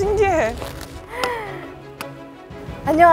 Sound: deep breath

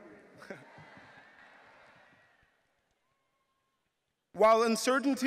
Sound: audience laughing

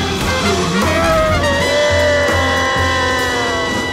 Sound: screaming

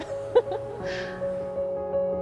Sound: laughing

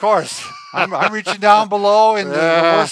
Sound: laughing

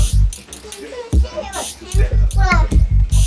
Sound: child chatters

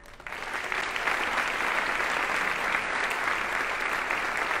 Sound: audience applauding

